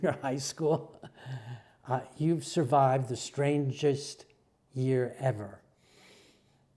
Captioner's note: laugh